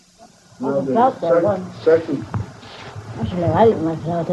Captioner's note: background talking